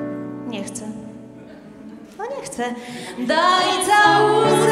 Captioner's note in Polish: śmiechy